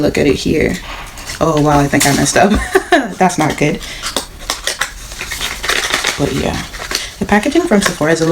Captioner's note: laughs